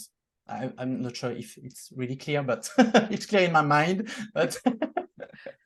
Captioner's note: laughs